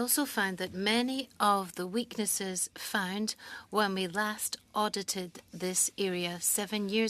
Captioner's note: speaking French